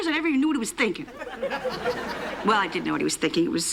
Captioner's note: laughter